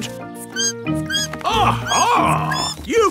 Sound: bat squeaking

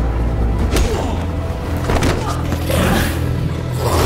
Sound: head thuds; growling

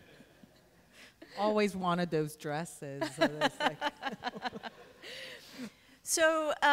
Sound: laughter

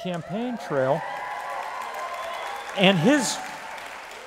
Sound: applause

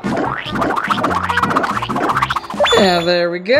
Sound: squirting sounds

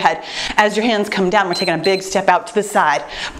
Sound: timer beeps

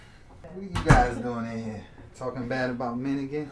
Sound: door slams

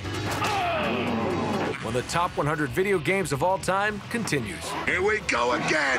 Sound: groaning

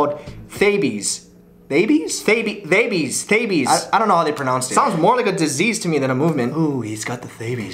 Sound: trying different pronunciations

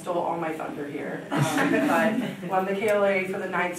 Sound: audience laughing

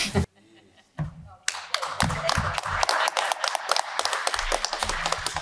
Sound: applause

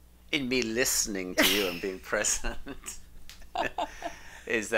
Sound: laughs

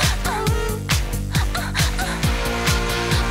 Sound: sobs

